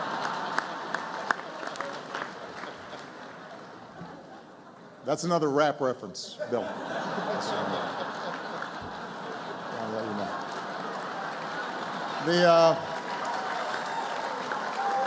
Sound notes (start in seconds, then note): 0.0 laughter and applause; 8.1 laughter; 13.5 applause